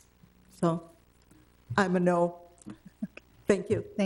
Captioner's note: chuckles